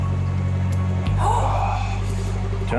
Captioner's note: lifeguards gasp